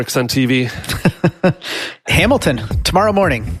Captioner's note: laughs